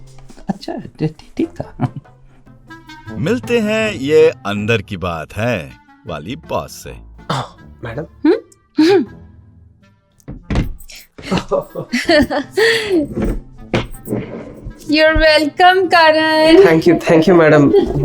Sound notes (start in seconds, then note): 11.1 giggling